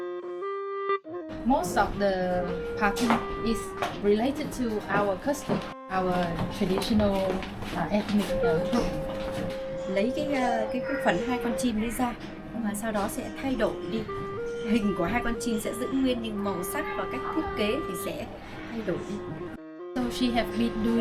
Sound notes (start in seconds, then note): 10.6 flute playing; 13.8 speaking Vietnamese